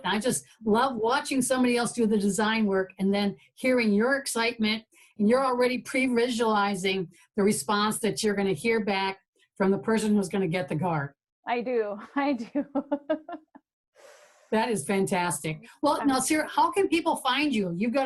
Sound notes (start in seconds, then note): 12.4 giggling